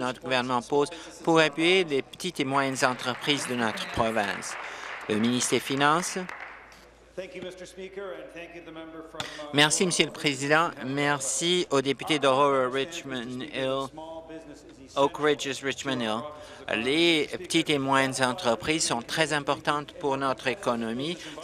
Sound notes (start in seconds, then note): 5.3 applause